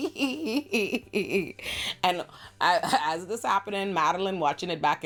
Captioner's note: laughs